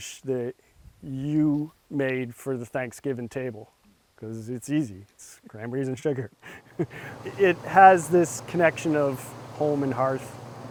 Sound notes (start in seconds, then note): 6.0 laughs